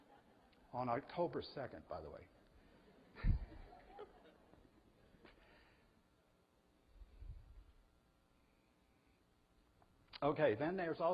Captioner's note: audience: Laughter